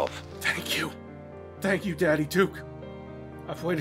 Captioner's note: tearfully